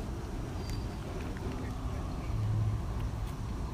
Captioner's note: chuff